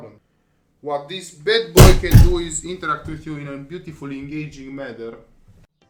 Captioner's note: slams roof of car